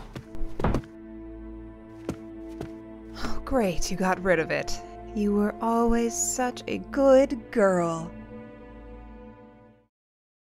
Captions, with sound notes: (Mom sighs) Great, you got rid of it. You were always such a good girl.